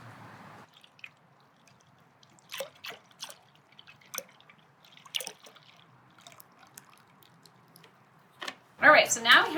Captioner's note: pouring noise